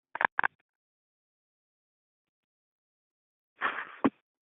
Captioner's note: silence